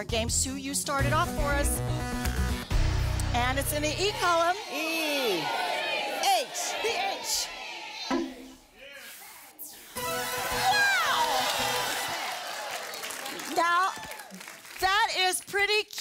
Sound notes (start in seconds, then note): 11.9 audience applause